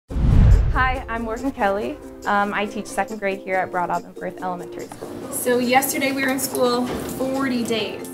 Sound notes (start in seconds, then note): 0.1 digital Woosh; 0.2 upbeat music begins